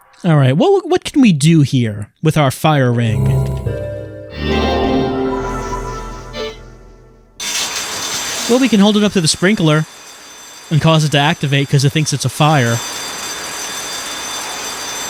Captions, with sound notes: Alright, what can we do here? With our Fire Ring? [musical sting of interaction] [fire alarm goes off] Well, we can hold it up to the sprinkler.. and cause it to activate, 'cause it thinks it's a fire.